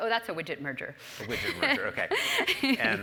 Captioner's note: laugh